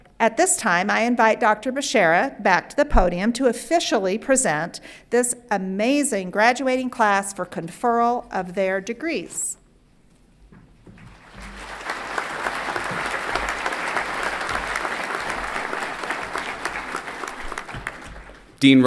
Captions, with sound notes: At this time, I invite Dr. Bechara back to the podium to officially present this amazing graduating class for conferral of their degrees. (everyone clapping)